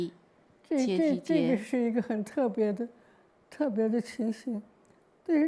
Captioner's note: Mandarin